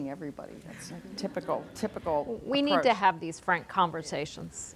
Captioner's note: audience laughing